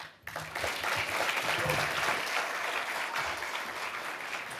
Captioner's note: audience applauding